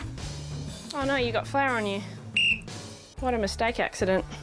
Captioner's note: blows whistle